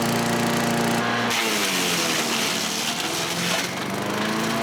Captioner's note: buzzing